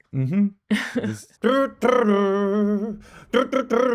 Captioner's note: imitates guitar